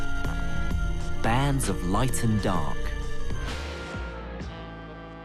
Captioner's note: voiceover